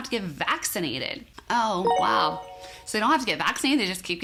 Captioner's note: chime tinkling